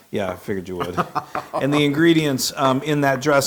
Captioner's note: laugh